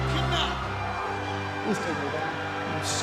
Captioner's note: crowd chatter